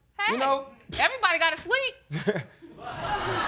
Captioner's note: chuckles